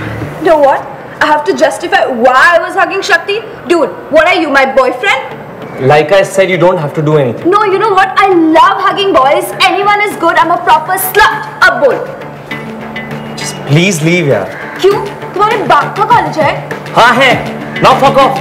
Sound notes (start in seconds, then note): none